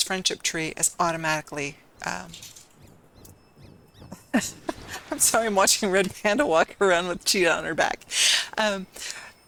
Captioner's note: laughter